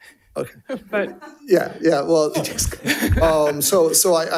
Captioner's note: participants laughing